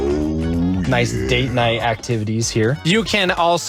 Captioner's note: engine revving